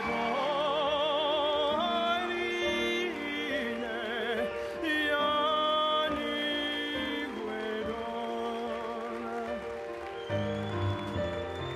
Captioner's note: applause